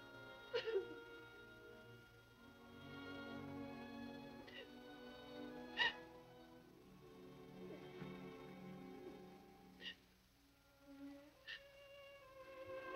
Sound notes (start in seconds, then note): 0.9 Nadya crying; 0.9 gentle music